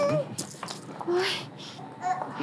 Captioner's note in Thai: ถอนหายใจ